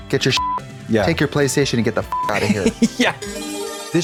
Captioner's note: beep; bright chime